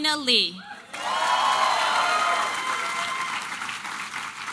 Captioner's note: applause and cheering